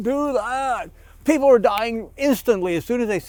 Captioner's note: snaps